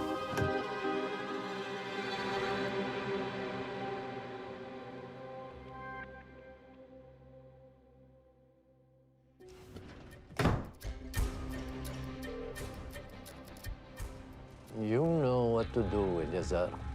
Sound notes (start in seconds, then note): 0.0 unsettling music continues; 10.4 loud thud; 11.5 stirring music playing; 16.7 somber music playing